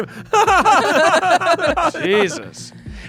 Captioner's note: chuckles